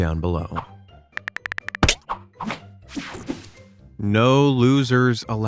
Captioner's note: cell phone keyboard clicking